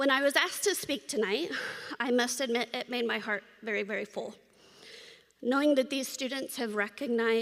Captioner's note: gasps